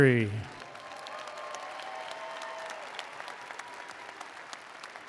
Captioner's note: attendees applauding